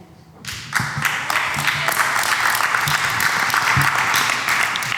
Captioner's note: applause